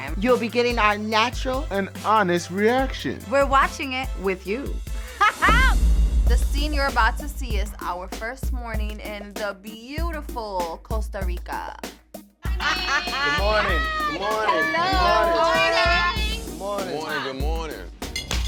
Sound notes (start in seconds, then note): 5.2 laughs; 12.4 laughter